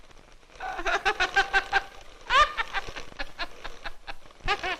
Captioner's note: laughs